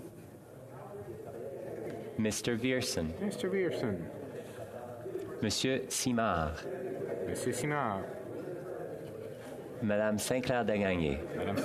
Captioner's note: calling of recorded vote